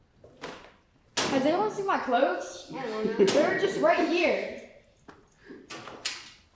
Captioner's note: children laughing